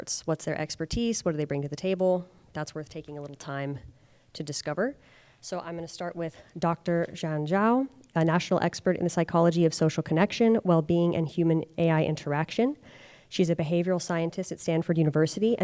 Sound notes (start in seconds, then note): none